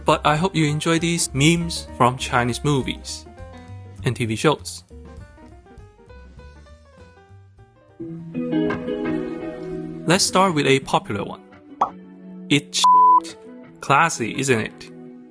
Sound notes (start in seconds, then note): 11.8 pop